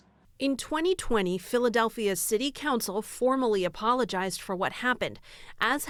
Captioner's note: voice-over